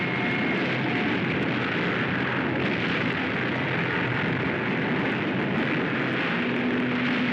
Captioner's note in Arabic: انفجارات; صوت الفوضى والدمار